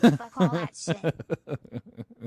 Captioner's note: chuckles